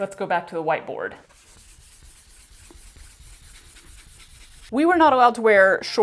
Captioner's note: aggressive scrubbing